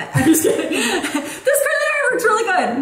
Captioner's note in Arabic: يضحك